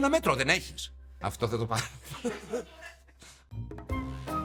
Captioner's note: laughs